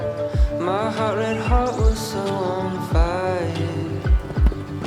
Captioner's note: birds chirping